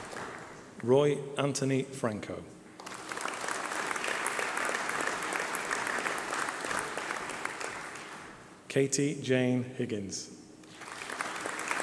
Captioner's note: applause